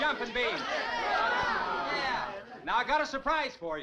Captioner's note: crowd groaning